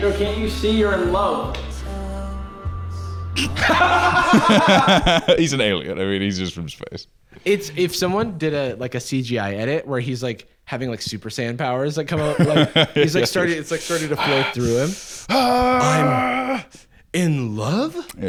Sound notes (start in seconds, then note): 3.4 both laughing